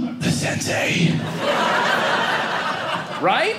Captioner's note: audience laughing